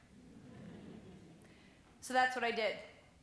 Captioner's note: gentle chuckling